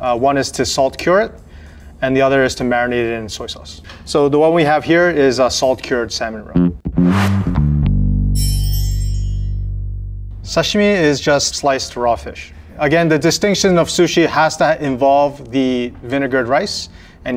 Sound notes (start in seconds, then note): 6.5 jaunty music; 6.8 text chimes